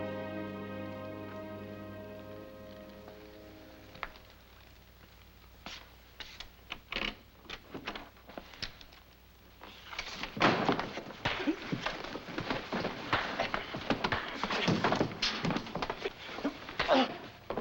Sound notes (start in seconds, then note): 7.3 lock clicking; 10.4 fists thudding; 15.1 grunting